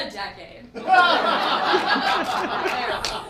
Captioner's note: laughing